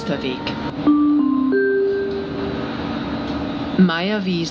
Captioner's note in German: Gong